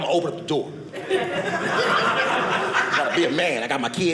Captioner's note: audience laughing